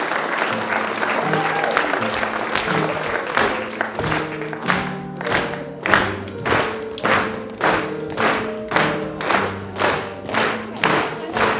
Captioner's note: rythmic clapping